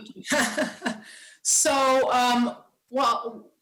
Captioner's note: laughs